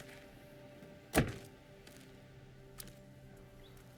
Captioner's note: clunk